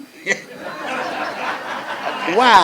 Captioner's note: crowd laughs